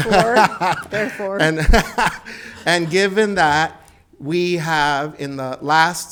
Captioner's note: laughs